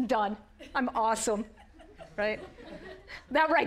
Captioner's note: audience laughing